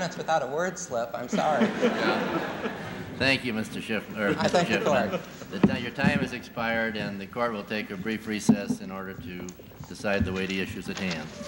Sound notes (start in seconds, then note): 0.0 laughter